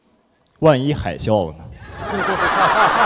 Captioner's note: laughs